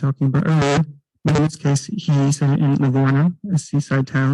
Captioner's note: distorted microphone